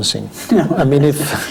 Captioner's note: laughs